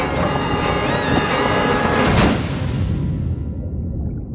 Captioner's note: choc bruyant